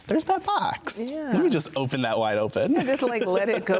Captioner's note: laughs